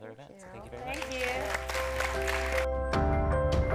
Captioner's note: audience applauding; bright music